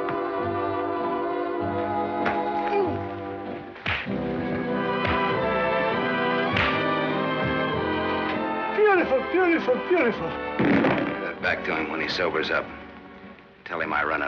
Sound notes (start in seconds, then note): 3.8 punching sounds